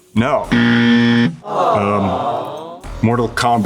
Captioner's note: buzzer goes off, crowd coos in disappointment